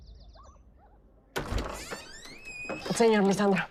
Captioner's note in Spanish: Ruido al abrir la puerta